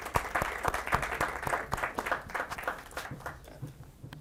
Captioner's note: audience applauds